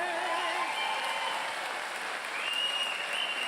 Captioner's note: audience cheering